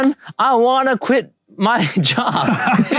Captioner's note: laughs